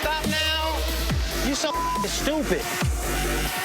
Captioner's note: beep